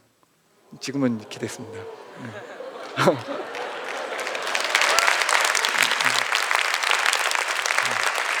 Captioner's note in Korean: 박수